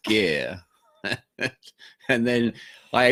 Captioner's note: laughs